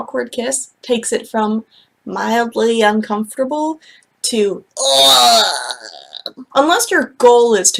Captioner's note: vomiting noise